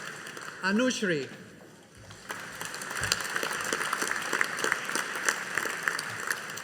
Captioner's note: audience applauding